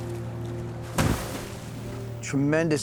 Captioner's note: peaceful music; waves crashing